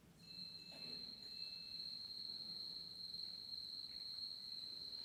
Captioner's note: crickets chirping